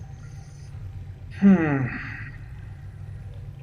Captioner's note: sighing